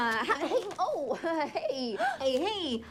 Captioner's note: laughs awkwardly